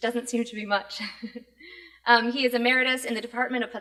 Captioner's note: laughs